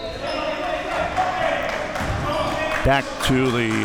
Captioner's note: audience chattering and yelling